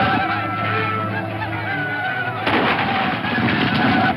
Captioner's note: gunshot